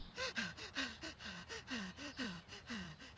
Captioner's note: breathing heavily